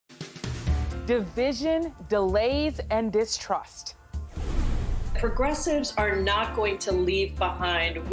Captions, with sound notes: (jazz music) - Division, delays and distrust. (whoosh) - Progressive's are not going to leave behind